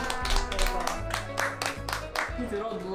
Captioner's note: applause